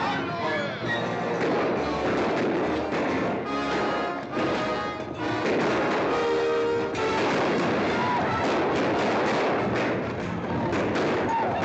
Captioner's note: gunshots